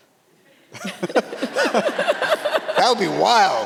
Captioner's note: all laughing